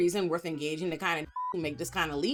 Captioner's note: beep